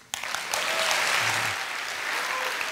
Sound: applause

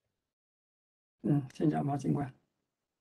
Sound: speaks in Mandarin

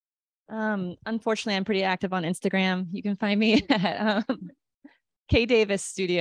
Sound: laughter

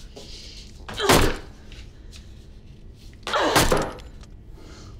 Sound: rebar smashes against box

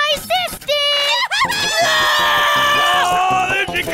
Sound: shrieking

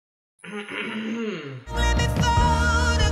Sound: clears throat

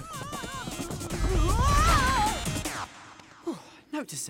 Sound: screaming

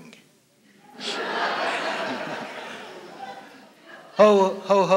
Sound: laughter

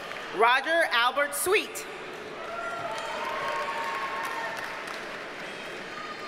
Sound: audience cheers and applauds

